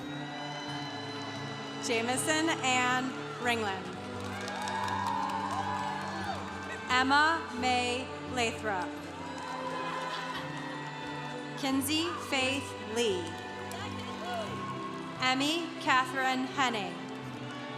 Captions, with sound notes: (congregation cheering) Jamison Anne Ringlien. (congregation cheering) Emma May Lathrop. (congregation cheering) Kinsey Faith Lee. Emmy Katherine Henning.